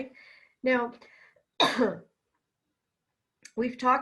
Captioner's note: coughs